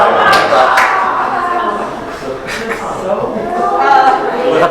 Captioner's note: audience laughs